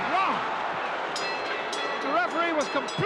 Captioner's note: bell dinging